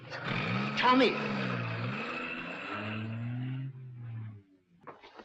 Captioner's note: engine roaring